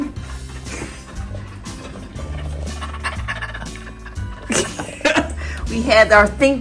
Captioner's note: laughs; pants